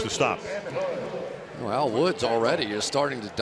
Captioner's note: pa announcement